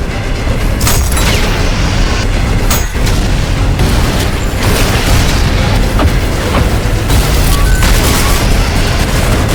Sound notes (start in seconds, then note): 1.0 shotgun punching